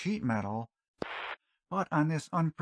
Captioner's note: static